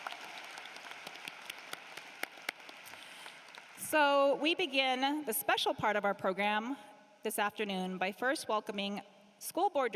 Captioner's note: cheering and applause